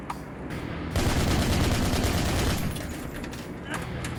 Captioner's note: gunshots